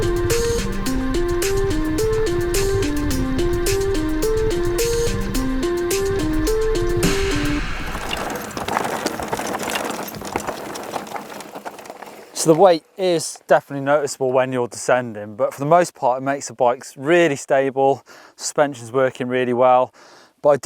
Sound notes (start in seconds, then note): 6.7 gravel crunching